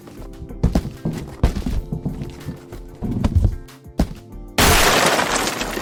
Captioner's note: upbeat instrumental music; box tapping ground; box pieces clattering; explosion resounds